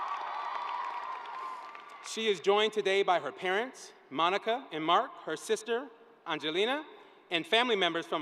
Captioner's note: cheering